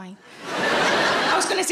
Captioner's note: crowd laughs